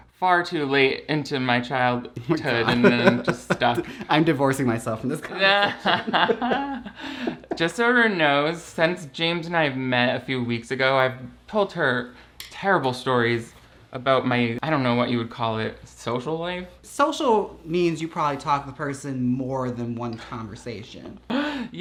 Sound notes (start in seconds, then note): 2.4 laughs; 5.3 both laugh